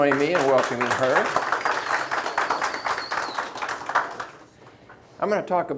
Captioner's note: audience applauding